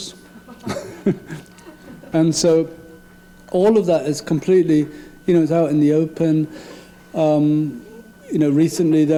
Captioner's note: laugh